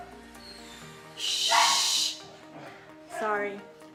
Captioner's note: shushing